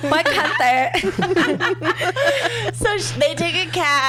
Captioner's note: laughs